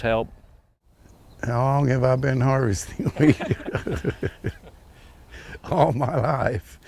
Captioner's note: laughs